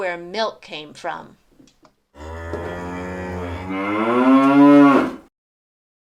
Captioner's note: moooooooo!